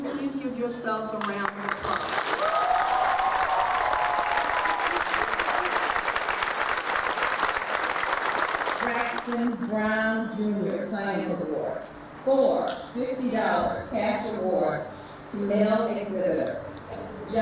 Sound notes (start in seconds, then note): 1.3 audience applauding; 2.2 audience cheering